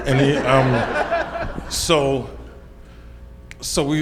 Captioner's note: audience laughs